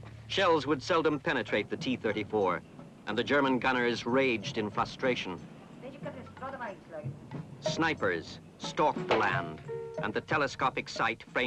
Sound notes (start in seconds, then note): 6.4 man speaks in foreign language